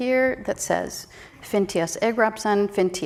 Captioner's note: speaks in a foreign language